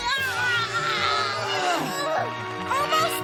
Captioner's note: grunting